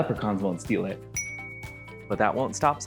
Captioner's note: ding